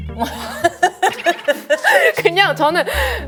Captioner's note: laughing